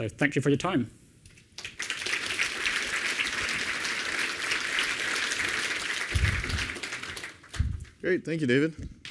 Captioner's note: applause